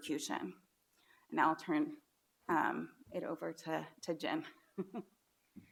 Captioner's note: laughs